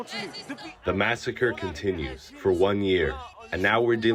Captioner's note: through translator